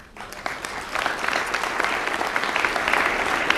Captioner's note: applause